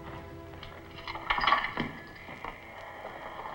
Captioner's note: lock clinks; gate creaks